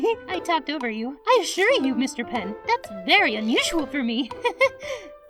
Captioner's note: laughs